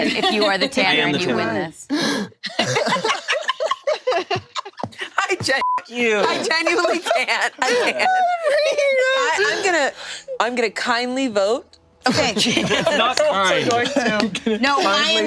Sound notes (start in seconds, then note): 2.1 group laughing; 5.6 beep; 6.1 group laughing